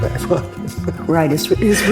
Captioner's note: laughs